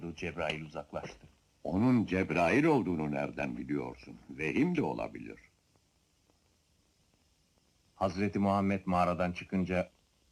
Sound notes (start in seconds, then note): none